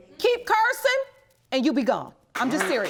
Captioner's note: audience applauds